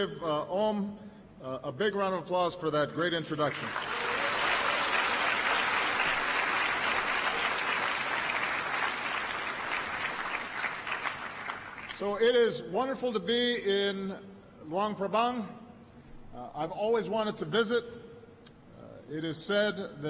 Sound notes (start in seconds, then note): 9.6 applause